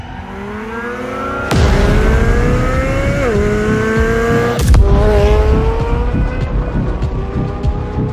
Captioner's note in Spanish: engine sounds